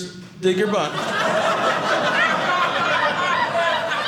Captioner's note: audience laughing